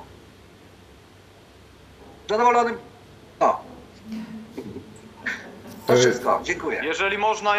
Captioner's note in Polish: śmiech